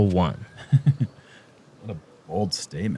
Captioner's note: chuckles